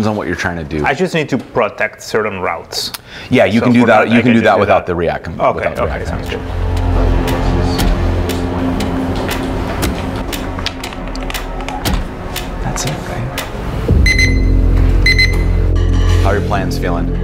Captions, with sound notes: what you're trying to do. I just need to protect certain routes. Yeah, you can do that without the React. Okay, okay. Okay, sounds good. (dramatic music) That's it, right? (beeping) How are your plans feeling?